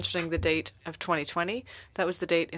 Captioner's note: speaking French